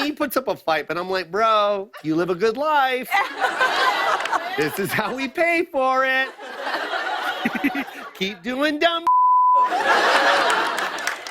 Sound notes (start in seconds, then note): 3.0 laughter; 9.6 laughter